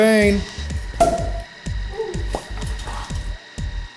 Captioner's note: cork pop